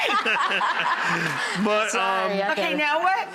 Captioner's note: laughs